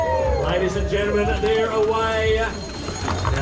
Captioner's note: cheering